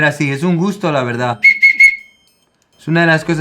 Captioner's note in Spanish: Silbidos